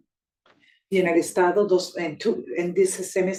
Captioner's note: speaking Spanish